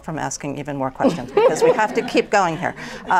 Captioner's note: laughter